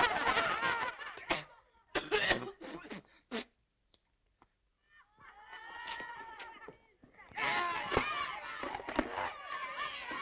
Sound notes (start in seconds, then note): 1.1 coughing; 7.3 screaming